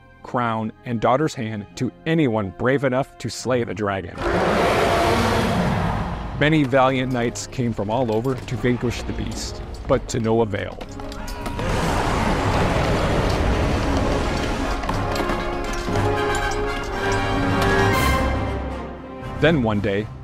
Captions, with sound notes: crown and daughter's hand to anyone brave enough to slay the dragon. (dragon roaring) Many valiant knights came from all over to vanquish the beast, but to no avail. (Dragon roaring and battle ensuing) Then one day,